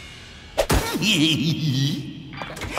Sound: Hank chuckles

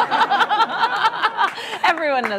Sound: laughter

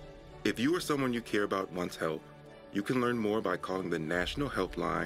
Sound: voiceover

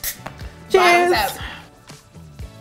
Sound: can opening

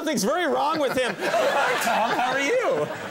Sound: Tom chuckles

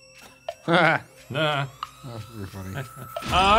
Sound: laughs

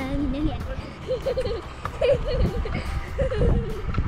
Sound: laughs

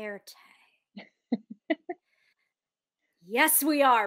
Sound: Deborah laughs

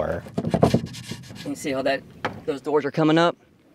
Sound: door opening

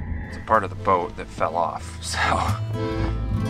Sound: laughs

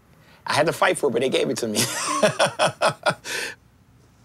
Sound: laughs

